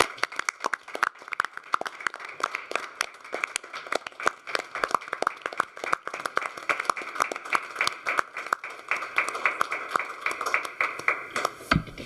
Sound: applause

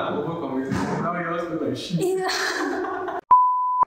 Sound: laughter

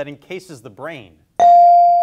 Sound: bell dings

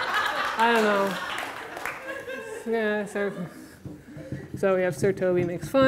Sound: audience laughter; light clapping, laughter

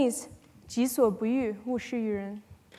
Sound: speaking chinese

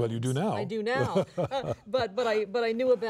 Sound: laughs

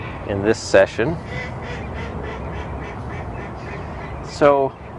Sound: ducks quacking

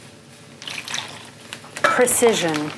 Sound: sloshing

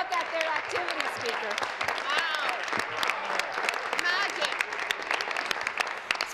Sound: applause

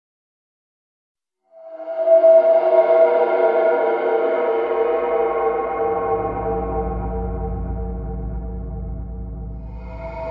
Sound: eerie sound

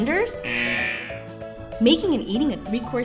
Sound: buzz

